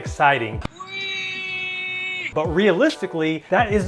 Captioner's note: screaming